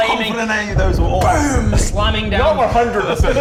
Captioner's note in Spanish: boom